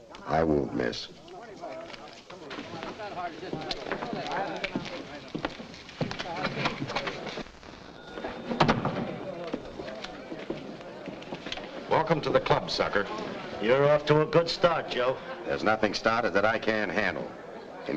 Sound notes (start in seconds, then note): 2.0 men chattering; 8.6 door thuds shut